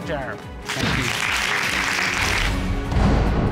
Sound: audience applauding

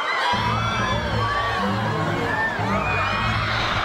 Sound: <i>all screaming

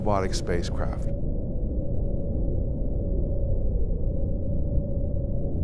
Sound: space drone sound

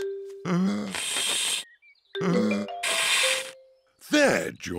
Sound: blowing deeply

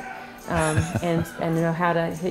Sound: laughing

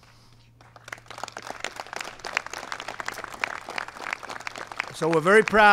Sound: applause

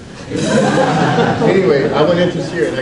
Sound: audience laughs

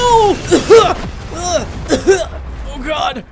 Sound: coughing

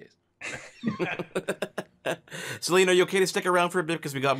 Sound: laughs

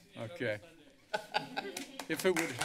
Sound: laughter

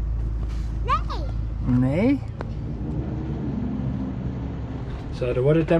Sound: speaks in Dutch

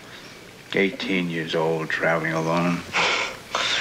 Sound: sighs

